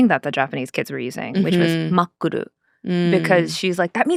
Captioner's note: speaking Japanese